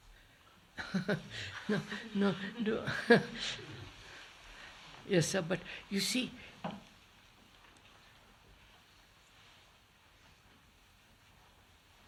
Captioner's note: laughs